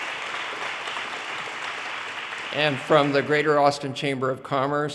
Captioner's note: audience cheers and applause